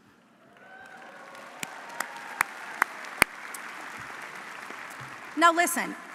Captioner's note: audience cheering and applauding